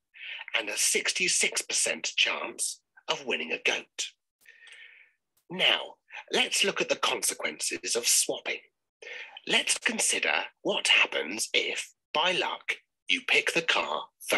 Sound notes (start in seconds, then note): none